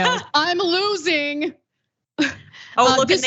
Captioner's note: laugh